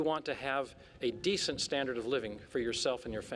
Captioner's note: none